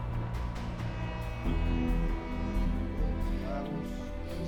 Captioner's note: horn fading